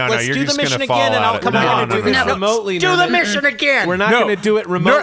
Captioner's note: shouting